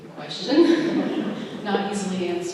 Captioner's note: laughter